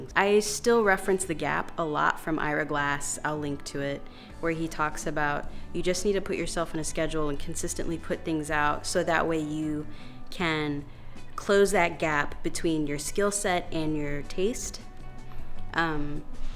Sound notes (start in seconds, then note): none